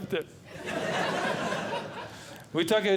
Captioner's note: audience Laughing